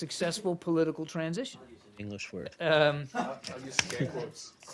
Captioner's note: laughter